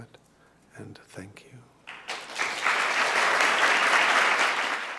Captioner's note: applause